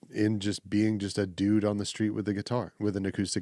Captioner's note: none